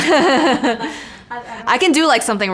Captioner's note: both laugh